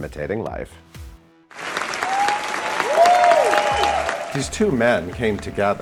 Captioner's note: crowd cheering and applauding